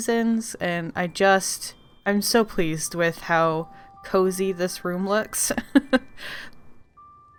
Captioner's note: laughs